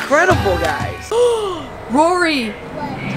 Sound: gasps

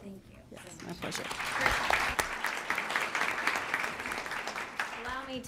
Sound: applause

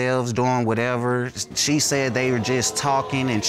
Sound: audience exclaiming

